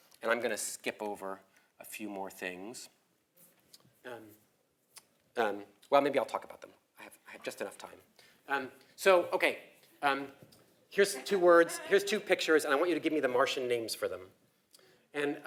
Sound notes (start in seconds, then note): 11.0 laugh